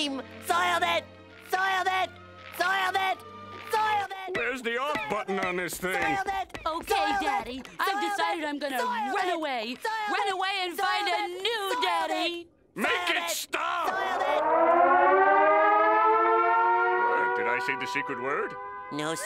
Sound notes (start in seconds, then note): 13.8 siren ringing